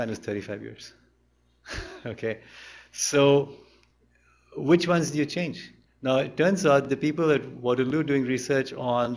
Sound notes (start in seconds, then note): 1.6 laughter; 3.1 chuckles